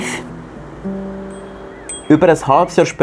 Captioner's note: bike bell